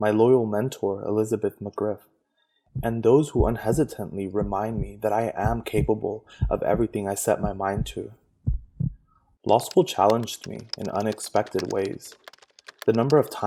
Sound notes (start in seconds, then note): 7.5 heartbeat resumes; 9.4 typing on a keyboard sounds